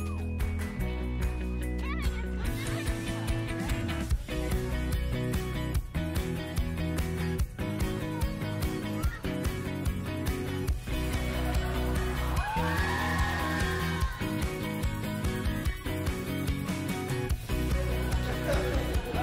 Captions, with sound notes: the environment sports and fitness information technology Provide opportunities for at-risk students and facilitate after-school programs. (cheering) Help youth develop life skills and discover their passions. (laughing)